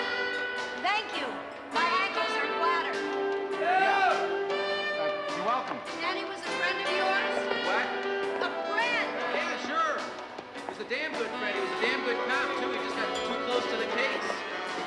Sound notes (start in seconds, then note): 3.9 shouting